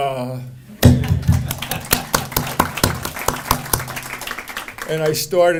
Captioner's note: audience applauding